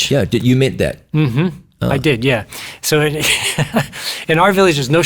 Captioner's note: laughs